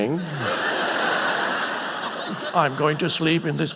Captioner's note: audience laughing